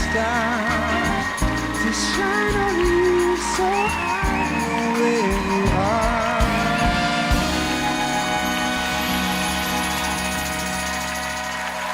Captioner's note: applause